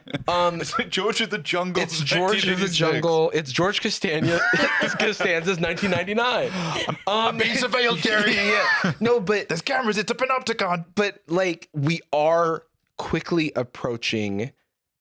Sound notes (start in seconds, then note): 0.0 laugh; 6.4 gasps